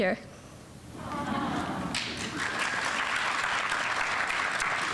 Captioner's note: audience applauding